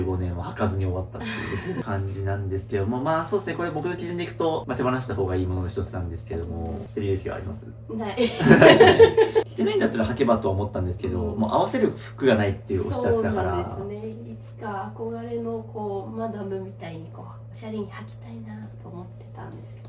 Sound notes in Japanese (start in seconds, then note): 8.3 笑い